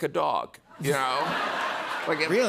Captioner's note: laughter